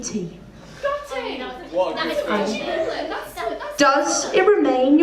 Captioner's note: chatter